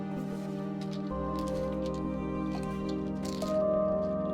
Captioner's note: pills rattling